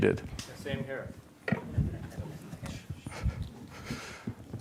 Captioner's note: laughter